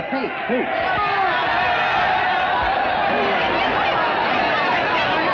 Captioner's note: angry chattering